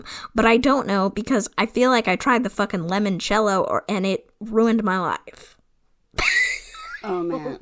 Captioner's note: laughs